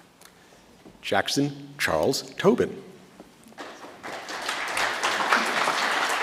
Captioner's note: audience applauds